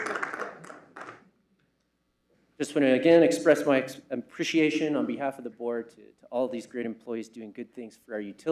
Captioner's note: applause